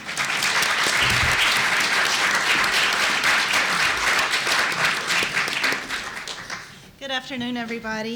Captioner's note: applause